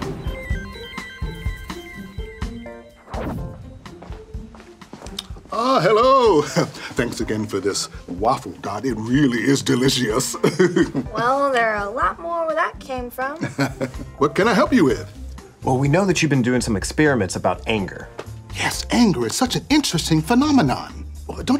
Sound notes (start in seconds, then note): 0.0 soft music; 0.0 electronics whirring; 10.3 chuckles; 13.4 laughs